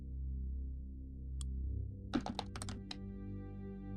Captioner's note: dice roll